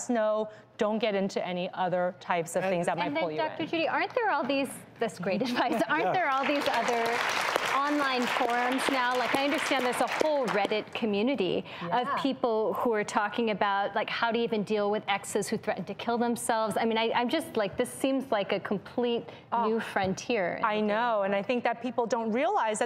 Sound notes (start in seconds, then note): 6.1 audience applauds